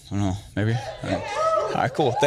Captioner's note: crowd applaud